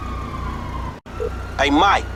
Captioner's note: phone rings